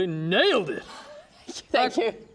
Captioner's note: sighs